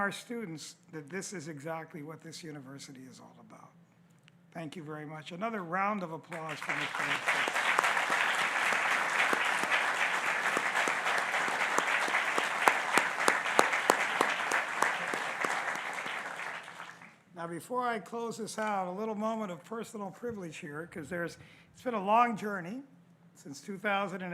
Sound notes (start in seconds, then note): 12.2 applause